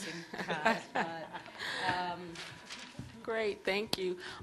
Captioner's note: panelists laughs